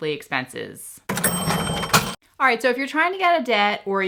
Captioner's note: bell dinging